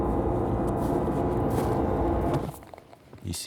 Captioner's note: dark doom sound; footsteps on snow